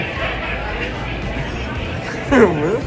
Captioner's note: chuckles